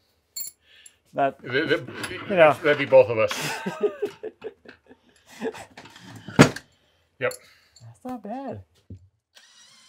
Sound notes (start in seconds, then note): 3.3 both laugh